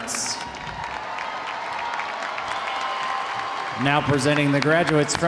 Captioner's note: audience applauding; audience cheering